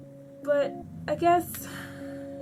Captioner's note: sighs